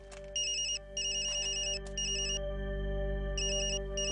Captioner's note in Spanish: Suena el teléfono